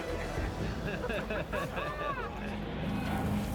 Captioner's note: men laughing